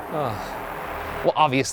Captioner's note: groans